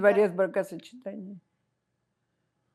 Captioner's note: russian